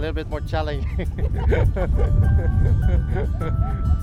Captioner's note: laughing